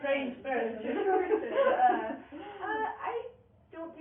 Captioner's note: laughing